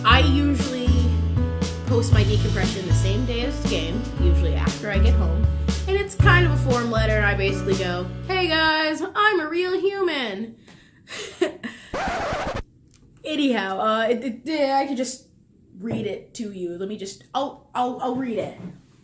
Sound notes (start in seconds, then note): 11.2 laughs; 11.9 record scratch